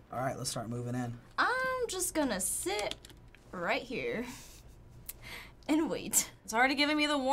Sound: chuckles

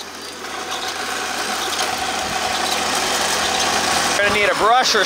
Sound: machine engine roaring

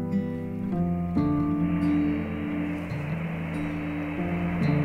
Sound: static hissing

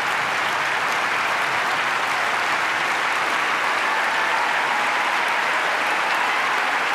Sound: applause

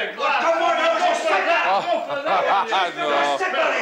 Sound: Max laughs

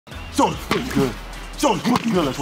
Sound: pad thudding

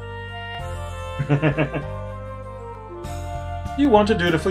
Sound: chuckles

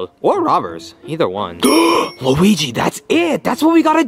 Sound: bell dings

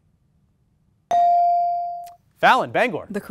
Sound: ding

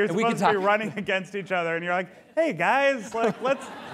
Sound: laughter

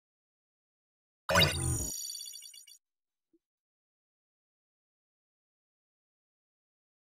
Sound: robot sound

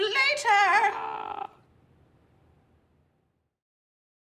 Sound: faint screaming

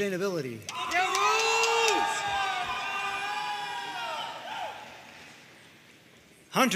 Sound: audience cheering and applauding

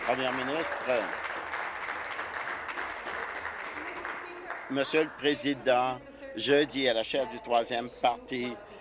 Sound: applause

